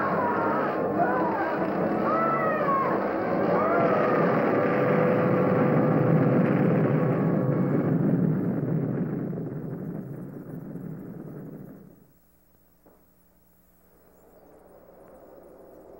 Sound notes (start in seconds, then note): 3.1 explosion